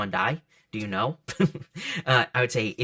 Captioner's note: laughs